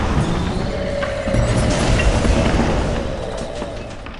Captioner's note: angry roar